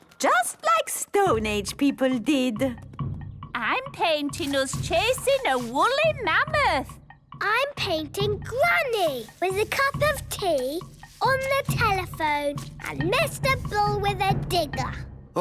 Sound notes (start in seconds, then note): none